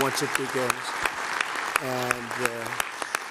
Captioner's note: applause